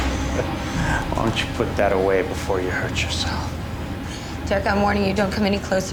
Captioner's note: chuckling